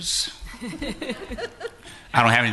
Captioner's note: laughter